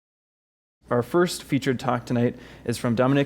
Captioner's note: voiceover